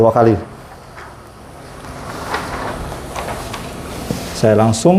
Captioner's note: covering paper noise